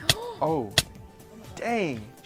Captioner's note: gasps